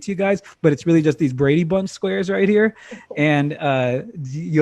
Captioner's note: laughing